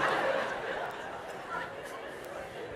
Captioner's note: laughter